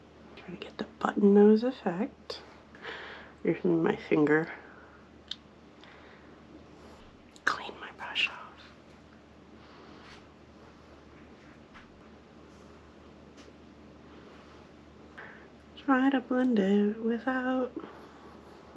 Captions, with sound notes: Try to get the button nose effect Using my finger [whispered] Clean my brush off. Try to blend without